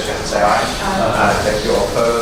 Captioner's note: A chorus of ayes